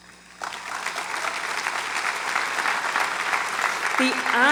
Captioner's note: audience applauds